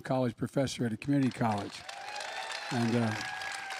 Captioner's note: applause